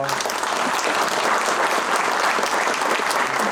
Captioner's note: applause